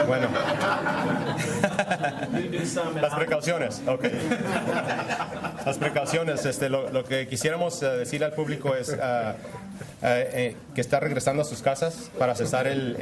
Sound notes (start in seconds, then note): 1.8 speaking spanish